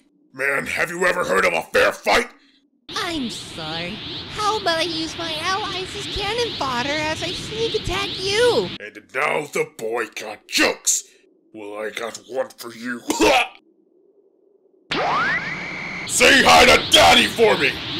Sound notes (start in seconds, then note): 13.1 BOJACK vomits